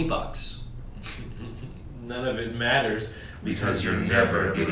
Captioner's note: laughs